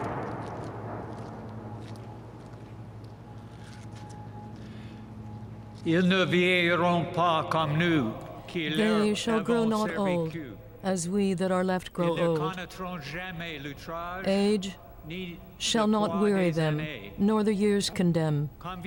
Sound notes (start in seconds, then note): 2.8 gunfire; 11.2 speaking French